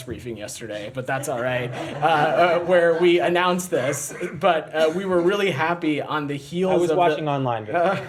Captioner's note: laughter